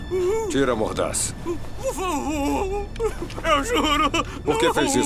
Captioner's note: whimpering, muttering